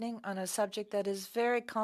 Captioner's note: speaking French